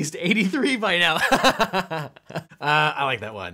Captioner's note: laughing